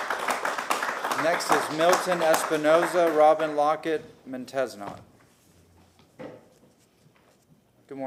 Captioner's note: applause